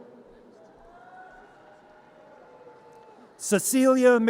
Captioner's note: audience cheers